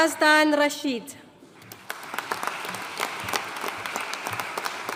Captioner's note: audience applauding